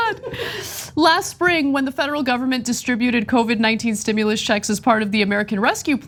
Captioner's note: laugh